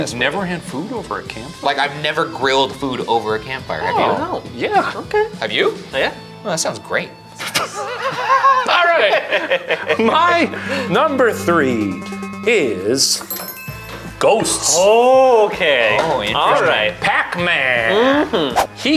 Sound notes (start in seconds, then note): 7.4 all laughing; 12.5 bells chime